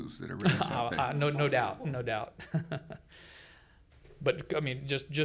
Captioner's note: laughs